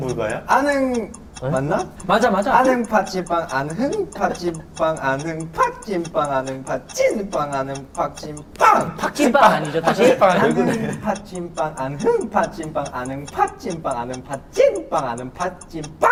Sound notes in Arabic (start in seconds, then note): 10.1 نبرة صوتة